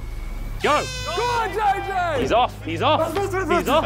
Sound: horn blowing

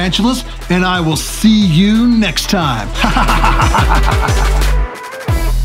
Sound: laughs

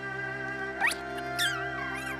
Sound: chittering

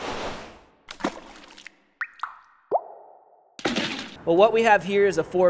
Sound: liquid dripping

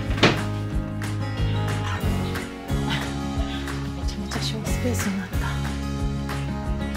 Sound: laughs

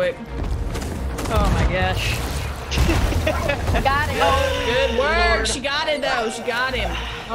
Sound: laugh

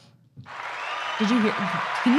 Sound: crowd cheering

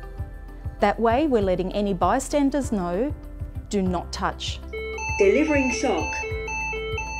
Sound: alarm noise

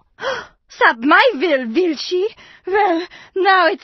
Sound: gasp

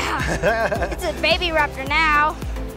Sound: laughs

